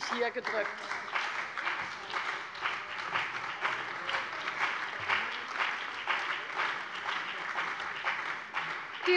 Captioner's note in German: Beifall bei der CDU und dem BÜNDNIS 90/DIE GRÜNEN